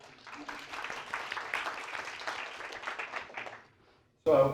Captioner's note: audience applauds